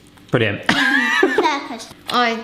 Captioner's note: laughs